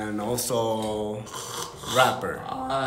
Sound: snores

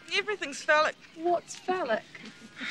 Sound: laughs

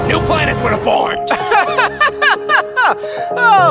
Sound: Earth laughing

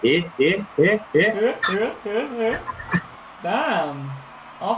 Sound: seal noises

